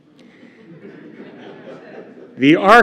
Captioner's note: laughter